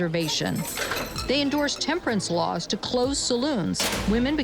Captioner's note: door slams